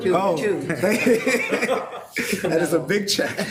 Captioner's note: laughs